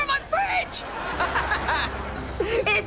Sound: laughing

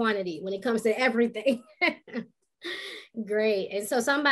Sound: laughing

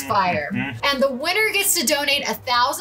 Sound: grunting

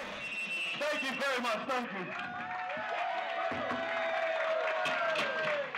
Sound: applause

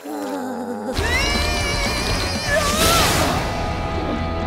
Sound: groaning

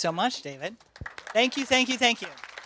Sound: applause

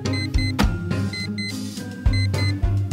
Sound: alarm Clock Beeps

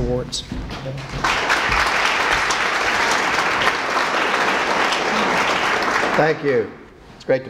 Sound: applause

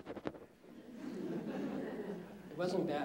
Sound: laughter

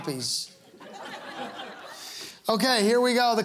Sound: laughter

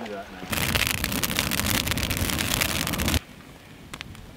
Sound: fire crackling

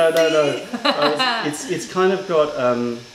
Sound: laughter

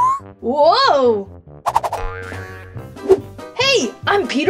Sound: comical flute whistles; elastic boings

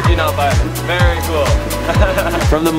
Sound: laughs

